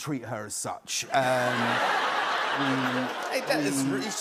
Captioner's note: laughter